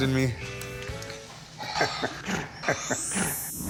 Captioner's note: laughing